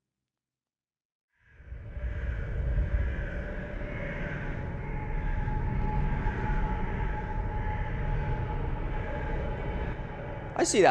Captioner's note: birds cawing